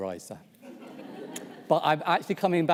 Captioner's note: audience laughs